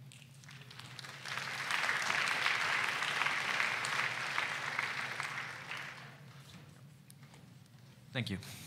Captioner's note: applause